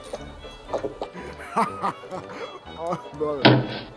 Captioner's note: drunk Laughter